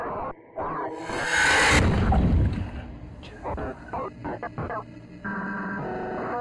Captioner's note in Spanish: Voces distorsionadas